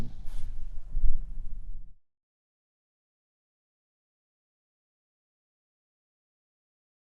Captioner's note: no audio